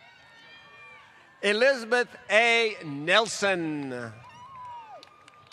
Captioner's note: applause